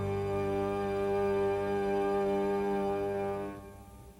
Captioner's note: barge honking